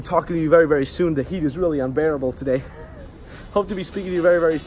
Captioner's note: laughs